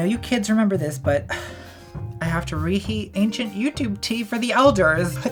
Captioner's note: sigh